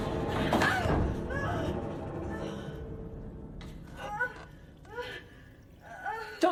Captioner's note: Dr. Reed yelps; Louise grunts